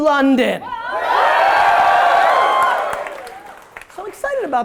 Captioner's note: audience roars